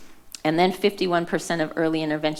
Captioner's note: none